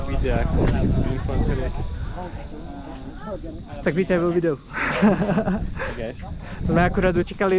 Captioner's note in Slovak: smiech